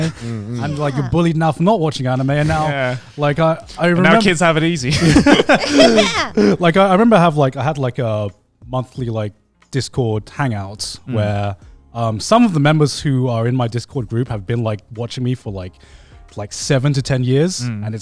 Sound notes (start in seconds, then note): 4.1 everyone laughing